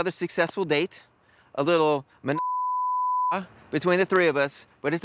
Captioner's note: beep